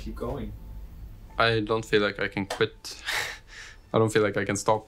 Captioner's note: laughs